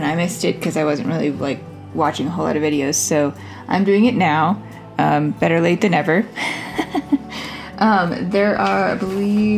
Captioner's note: laugh